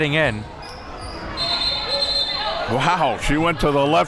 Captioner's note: whistle blows